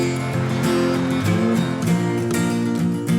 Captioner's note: laughter